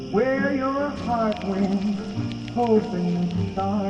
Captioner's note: needle on record